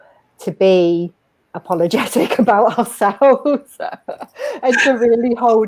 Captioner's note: laughs